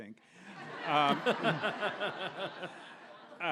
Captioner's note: audience laughs